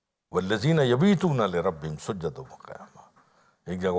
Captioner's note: Arabic